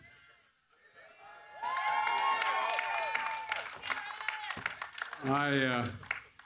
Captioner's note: laughter and applause